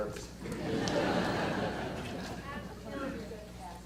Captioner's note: audience laughter